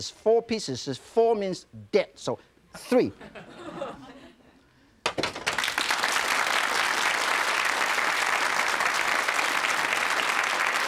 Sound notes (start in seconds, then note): 3.1 audience laughs; 5.2 audience claps